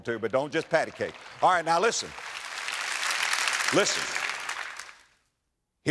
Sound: audience applause

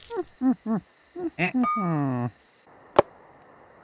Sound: witch humming

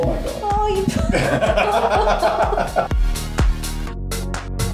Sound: laughs

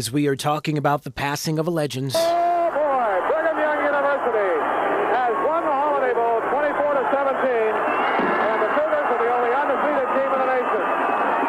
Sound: sound of BYU national championship

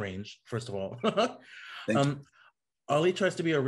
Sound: laughs

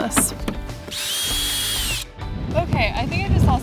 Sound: power drill whirring

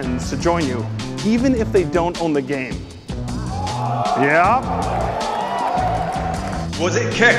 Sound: shocked reaction from crowd

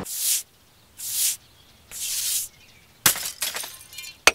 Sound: broom swishing

